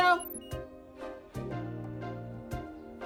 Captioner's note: beeping